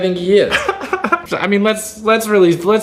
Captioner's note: laughing